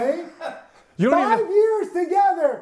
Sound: chuckles

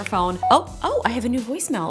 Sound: phone beeps

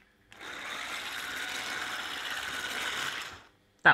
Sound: mixer hums

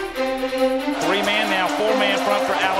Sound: voiceover

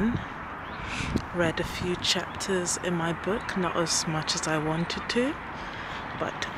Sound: inhales

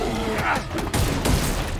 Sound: guns firing

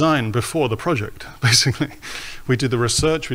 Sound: laughs

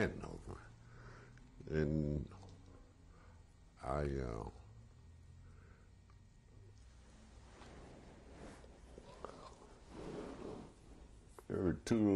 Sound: pauses for 6 seconds

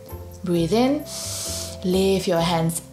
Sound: breathes in deeply

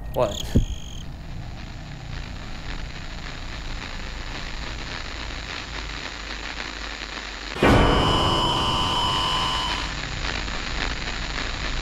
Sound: audio static

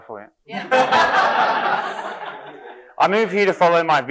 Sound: audience laughing

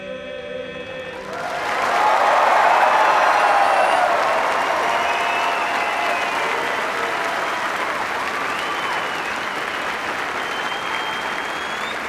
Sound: cheers and applause

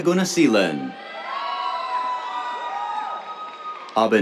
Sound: cheers

